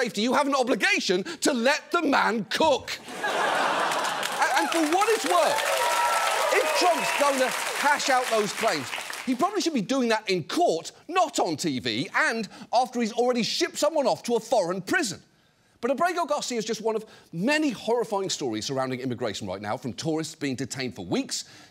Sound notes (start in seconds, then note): 3.0 audience laughs, cheers